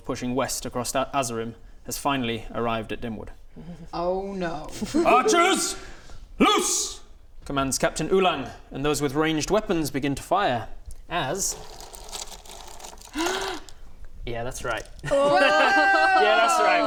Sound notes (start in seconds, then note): 10.8 really quite excessive mini rustling noises; 13.1 gasp!